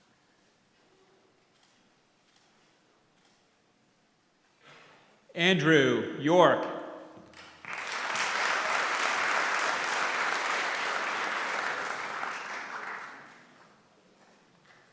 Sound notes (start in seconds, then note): 7.4 applause